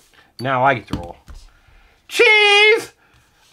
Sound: voiceover

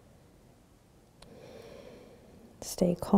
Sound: breathing

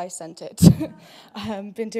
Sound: laugh

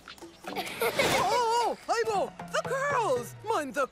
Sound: laughter

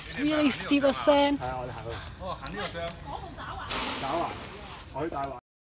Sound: really loud talking from a group of uncles and aunties

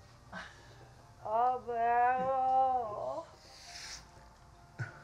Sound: Franky groans in distance

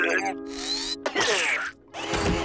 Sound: spitting

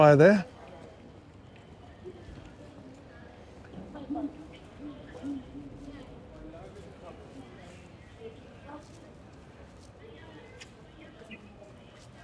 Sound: chanting

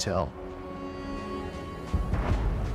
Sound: wind whipping

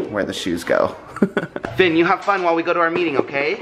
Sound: chuckling

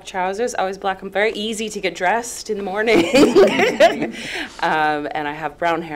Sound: laughs

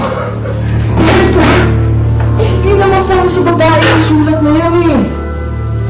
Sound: laughs

